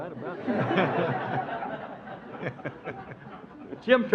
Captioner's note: audience laughs